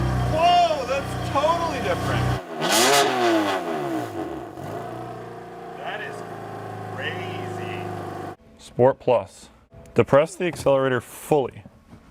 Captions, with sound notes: Whoa, that's totally different! (engine revving) That is crazy. Sport plus. Depress the accelerator fully.